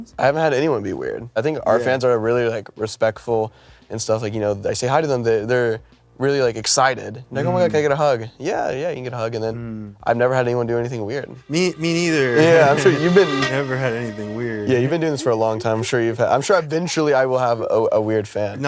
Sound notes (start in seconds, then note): 13.5 sarcastically